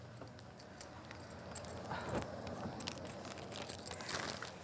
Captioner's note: keys jingling